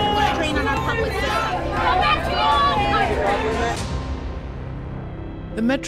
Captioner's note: protesters chanting